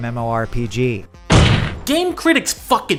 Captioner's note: slam